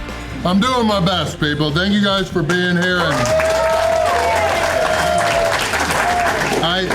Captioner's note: crowd applause